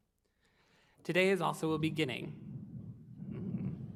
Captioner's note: thunder rumbles